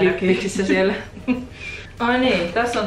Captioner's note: giggles